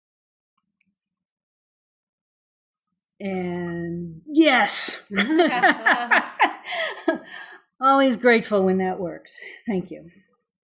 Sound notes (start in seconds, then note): 5.1 laughing